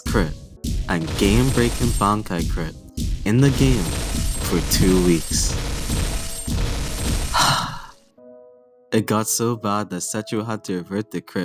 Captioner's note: long sigh